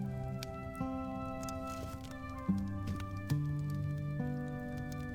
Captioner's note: fire crackling